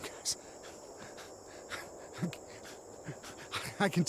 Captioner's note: laughing